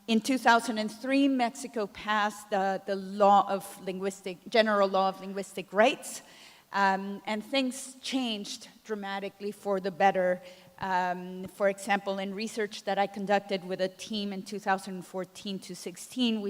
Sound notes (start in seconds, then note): none